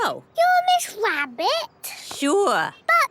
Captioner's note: none